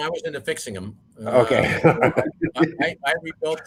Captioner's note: laughing